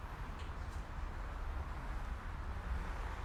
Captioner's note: traffic Noises